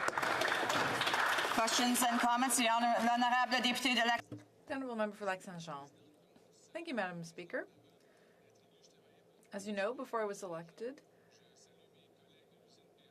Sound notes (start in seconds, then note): 6.5 speaking French